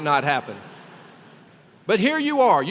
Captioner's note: laughter